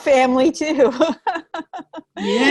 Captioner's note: chuckling